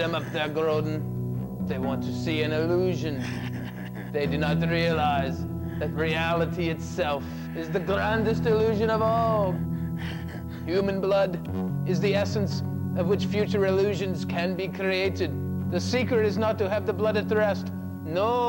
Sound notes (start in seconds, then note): 3.9 Groden cackles